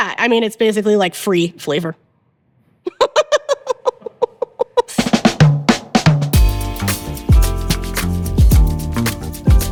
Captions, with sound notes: I mean, it's basically like free flavor. (laughs)